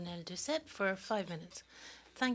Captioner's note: speaking French